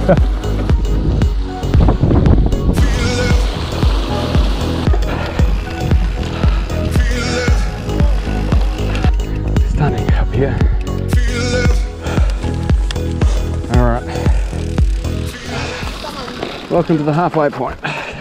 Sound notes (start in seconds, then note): 0.4 laughs; 4.6 heavy breathing; 12.1 workout music